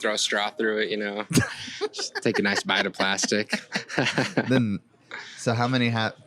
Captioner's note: laughs